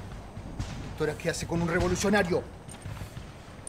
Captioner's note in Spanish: Voz de hombre